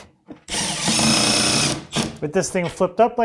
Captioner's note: drill whirring